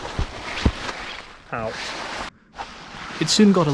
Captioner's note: thud